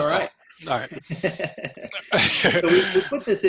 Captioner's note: laughter